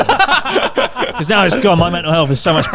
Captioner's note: all laughing